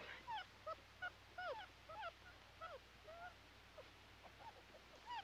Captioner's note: puppies whimpering